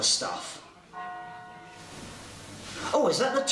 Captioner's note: church bells toll